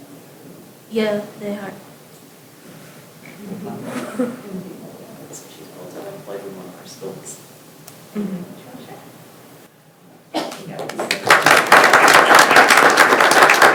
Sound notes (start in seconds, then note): 5.4 speaks faintly; 10.4 attendees applauding